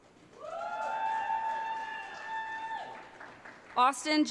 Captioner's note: audience cheering